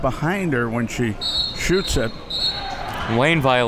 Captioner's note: whistle blows